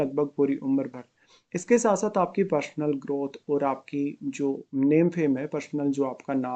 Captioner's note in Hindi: नाक से की जाने वाली आवाज़